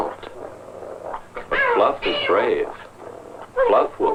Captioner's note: angry meowing